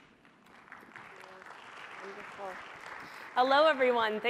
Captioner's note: applause